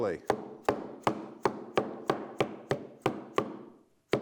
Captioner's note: hammer thuds